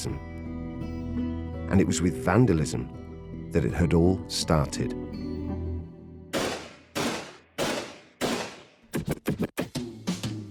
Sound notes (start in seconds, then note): 6.1 loud banging; 9.0 energetic hip hop music